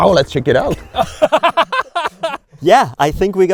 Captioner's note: laughing